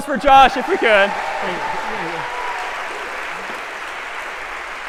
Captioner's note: applause